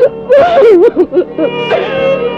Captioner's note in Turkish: Hıçkırıklar